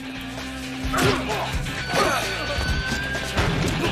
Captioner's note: groaning